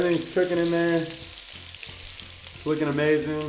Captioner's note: meat sizzling